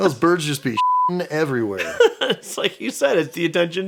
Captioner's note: beeping